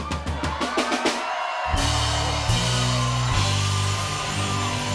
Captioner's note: drumroll; cheers and applause